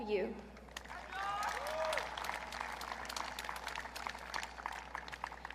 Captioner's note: audience cheering